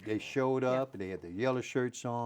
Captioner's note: laughing